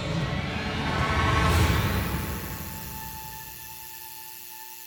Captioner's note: electricity humming